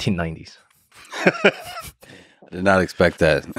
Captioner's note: Lex laughs